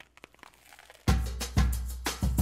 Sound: crunching; upbeat music

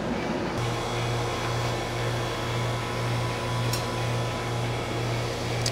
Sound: sound of AC unit running

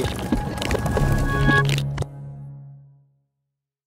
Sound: transition sound effect

